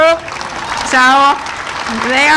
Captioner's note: audience applauding